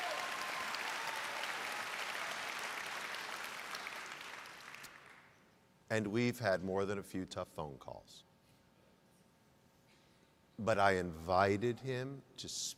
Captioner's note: applause